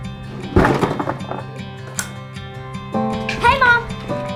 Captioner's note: box of equipment drops